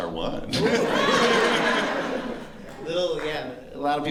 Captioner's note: laughter